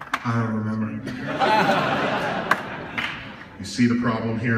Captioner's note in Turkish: Gülüşmeler